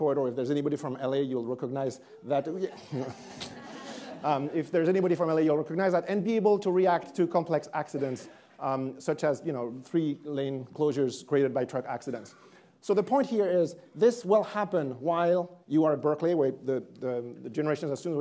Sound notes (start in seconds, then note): 2.5 attendees laughing